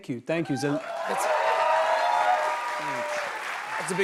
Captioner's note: cheers and applause